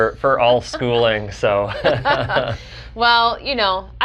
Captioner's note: both laugh